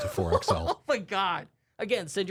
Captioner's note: lightly laughs